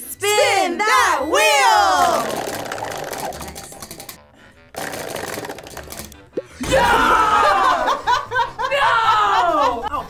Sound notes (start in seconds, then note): 2.0 wheel rattling; 7.4 laughs